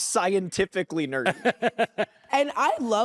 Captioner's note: laughs